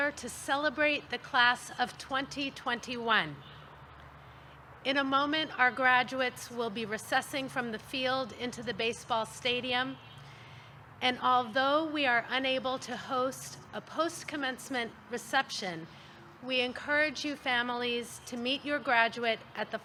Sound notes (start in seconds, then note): none